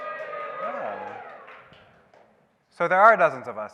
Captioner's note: audience cheering